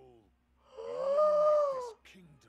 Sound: bigger Gasp

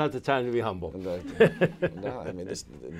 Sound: laughter

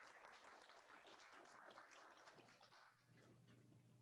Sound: applause

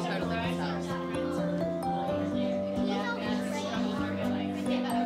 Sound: children chattering

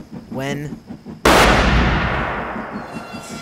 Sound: gunshot blasts

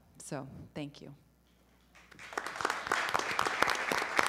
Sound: applause

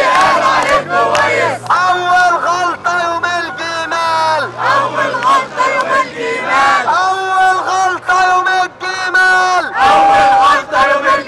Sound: chant

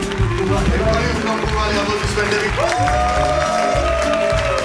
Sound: crowd clapping; speaking foreign language and cheering

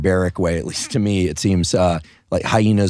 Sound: laughing

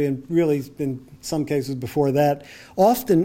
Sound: none

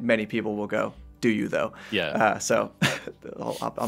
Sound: both laugh

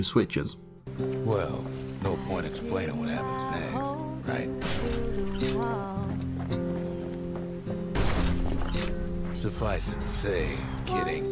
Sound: in-game audio

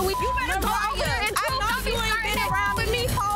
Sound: beep

